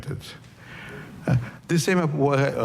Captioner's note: laughter